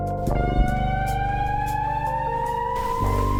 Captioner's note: emergency siren sound